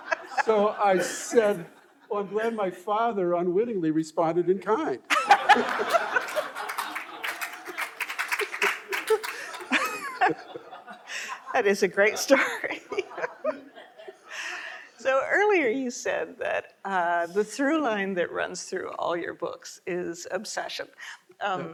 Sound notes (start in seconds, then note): 5.1 audience laughing and applauding; 13.9 laughing